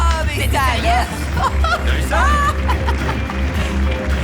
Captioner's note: laughing